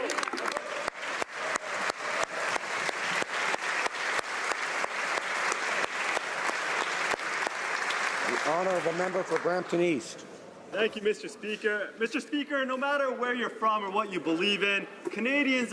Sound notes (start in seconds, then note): 2.6 speaking French; 4.0 applause